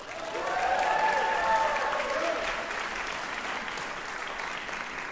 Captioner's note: applause